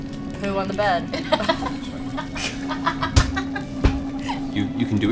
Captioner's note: laughter